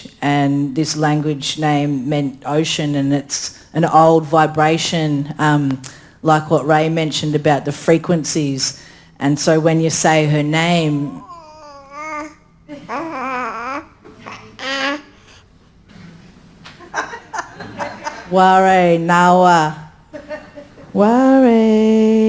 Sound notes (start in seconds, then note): 11.2 baby cooing; 18.3 speaks in foreign language